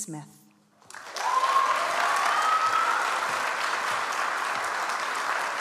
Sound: audience applauds

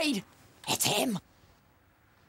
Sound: whispering

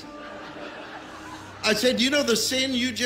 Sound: crowd laughes

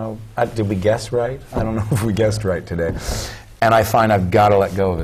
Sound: chuckle

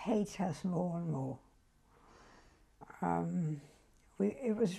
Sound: pauses for 3 seconds

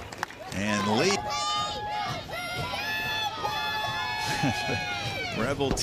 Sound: yelling

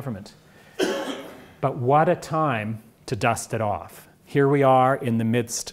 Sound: cough

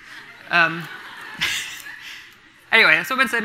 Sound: everyone laughing

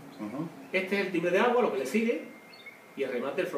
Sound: watery bell

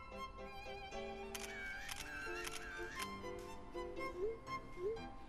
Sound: camera sounds

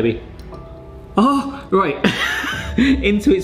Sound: laughs

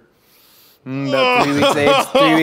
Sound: sniffs deeply; disgusted noises

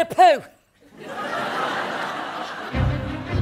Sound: audience laughs

